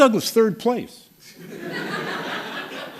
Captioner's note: laughter